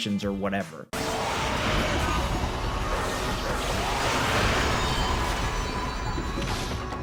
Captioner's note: creatures roaring; upbeat music